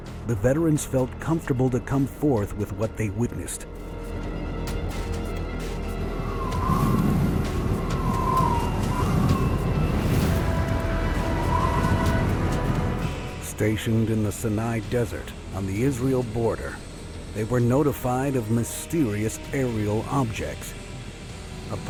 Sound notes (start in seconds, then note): 4.9 wind whistling; 4.9 brooding music